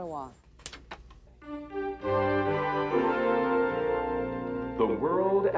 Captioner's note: click click